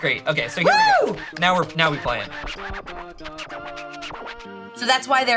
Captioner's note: record scratching